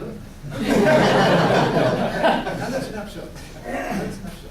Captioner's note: laughter